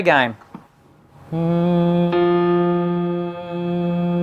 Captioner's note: hums